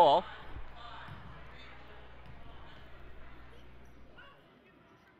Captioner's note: crowd talking